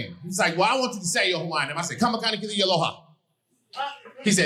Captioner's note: speaking Hawaiian